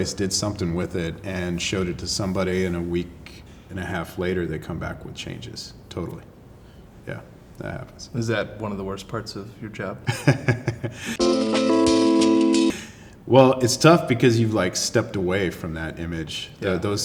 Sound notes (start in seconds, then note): 10.1 laughs; 11.2 electronic music